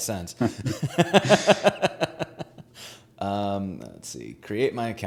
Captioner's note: both laughing